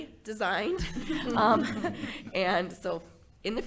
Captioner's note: board laughing